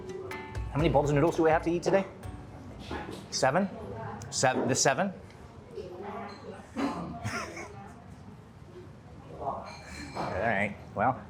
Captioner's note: laughs